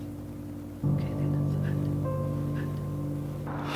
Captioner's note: whispering